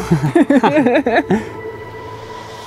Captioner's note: laughter